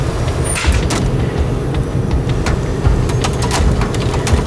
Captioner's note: metal clanking